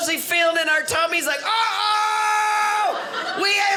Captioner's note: excited screaming